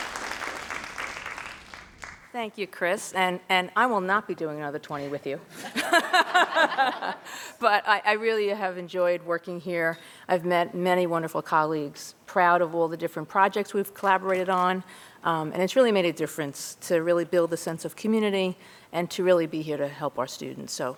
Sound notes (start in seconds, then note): 6.9 laughs